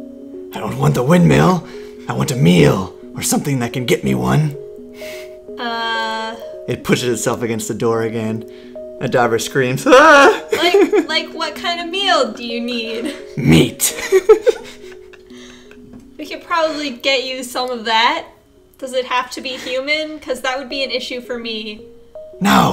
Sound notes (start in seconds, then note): 9.8 laughs; 13.8 both laugh